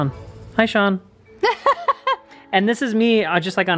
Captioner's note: laughs